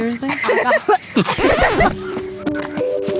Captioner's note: laughing